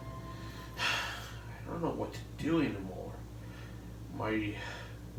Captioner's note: sigh